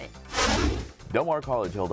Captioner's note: deep swooshing